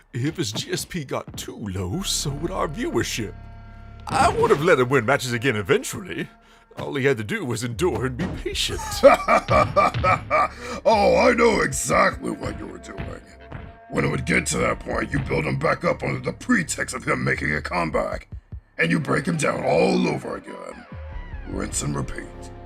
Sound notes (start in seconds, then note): 8.7 laughs